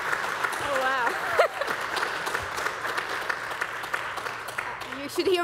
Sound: laughs

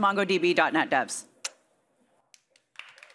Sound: applause

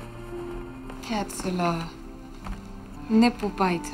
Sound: Nancy speaks foreign language

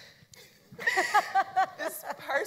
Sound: everyone laughs

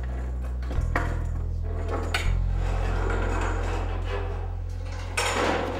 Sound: ominous music; banging

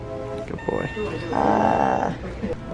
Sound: groaning

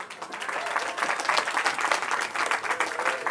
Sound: cheering

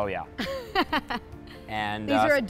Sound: laughing

